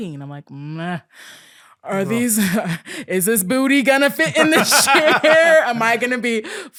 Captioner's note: laughing